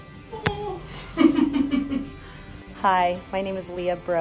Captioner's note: laughing